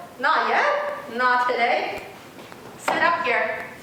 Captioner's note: none